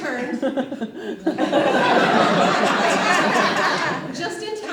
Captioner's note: audience laughs